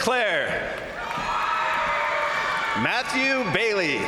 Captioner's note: crowd cheering; crowd applauding